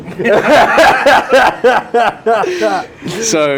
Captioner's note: laughter